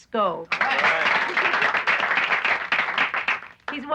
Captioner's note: applauding